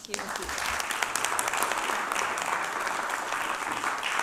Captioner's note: audience applauding